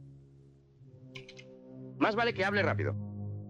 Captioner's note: rifle cocks